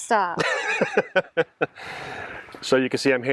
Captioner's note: laughs